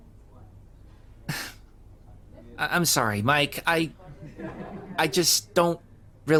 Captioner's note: sigh